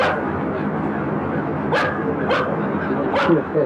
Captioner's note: dog barking